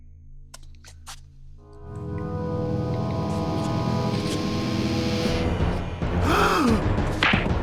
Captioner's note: gasp